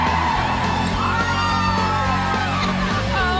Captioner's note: mob cheering; cheering continues